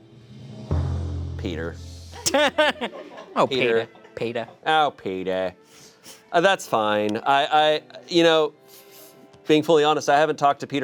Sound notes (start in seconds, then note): 2.1 chuckles